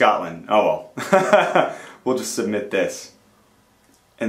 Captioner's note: laughs